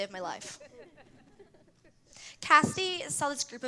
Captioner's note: laughter